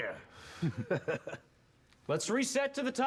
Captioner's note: laughs